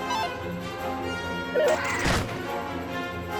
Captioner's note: squeaking